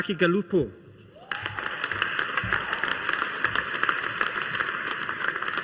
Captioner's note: audience applauding